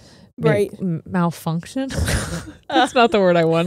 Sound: both chuckle

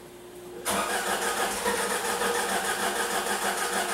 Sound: engine cranking... a few times

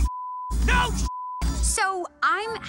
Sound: beep

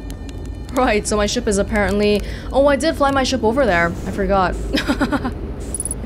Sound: laughs

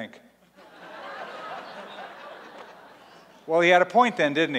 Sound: laughter

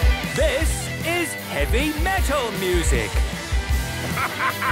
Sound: shouting

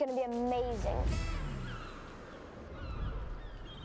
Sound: gulls squawking

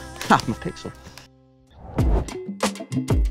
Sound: none

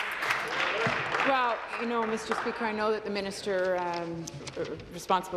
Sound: applause

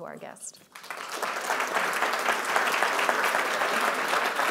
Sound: audience applauding

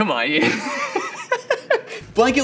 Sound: laughter

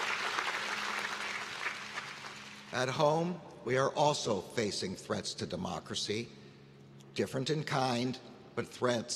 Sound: applause

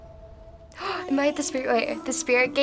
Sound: gasps

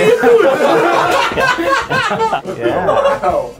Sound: all laughing

